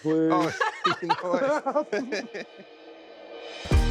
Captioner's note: everyone laughing